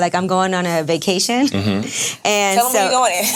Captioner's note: laughs